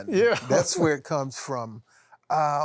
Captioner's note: laughs